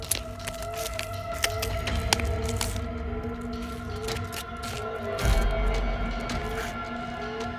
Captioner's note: rifle clicks; suspenseful music; alarm blaring